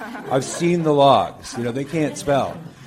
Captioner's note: scattered laughter